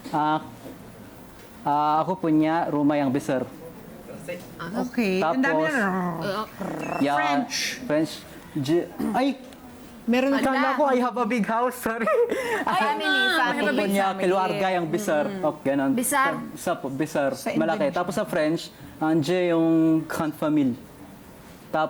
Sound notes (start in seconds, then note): 6.3 talks in gibberish